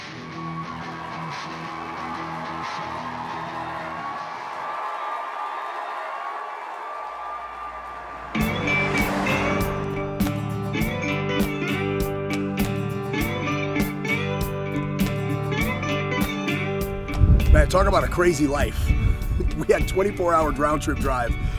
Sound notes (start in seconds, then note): 1.7 crowd cheering; 1.7 intense music playing; 8.4 soft music playing